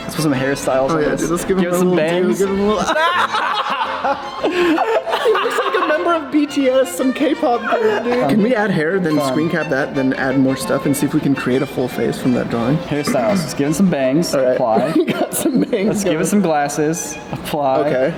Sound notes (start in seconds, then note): 2.2 laughing